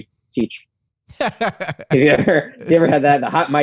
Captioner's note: laughter